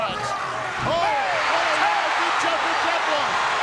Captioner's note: Roddy shouts; audience cheering